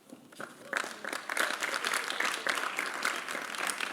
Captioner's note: applause